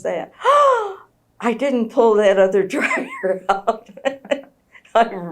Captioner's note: gasps